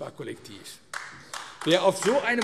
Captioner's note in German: Beifall AfD